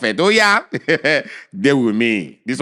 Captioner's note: chuckles